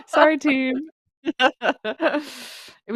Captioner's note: laughs